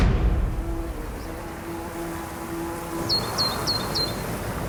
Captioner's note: birds chirping